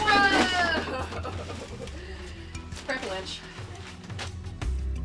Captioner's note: laughs